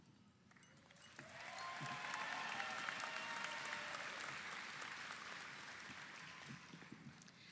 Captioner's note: audience applauds; audience cheers